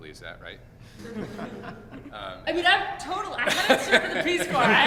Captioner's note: laughter